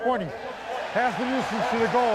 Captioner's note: cheering